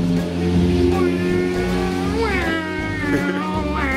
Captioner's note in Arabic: ضجيج السيارات; يضحك